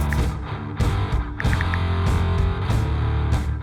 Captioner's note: brush scraping; ticking